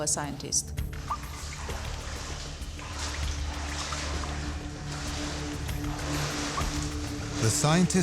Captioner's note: footsteps on water